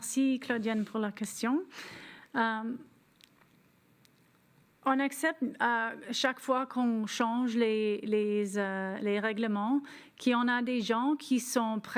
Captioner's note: speaking French